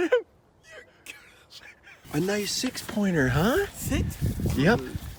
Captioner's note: laughs